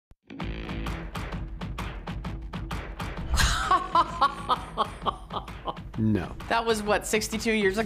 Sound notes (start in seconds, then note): 3.4 laughing